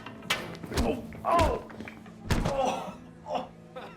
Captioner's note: fighting grunts; laughter